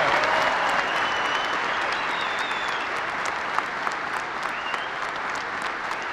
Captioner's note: applause